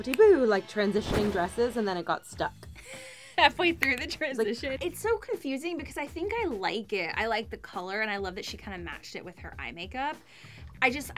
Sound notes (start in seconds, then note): 3.0 laughter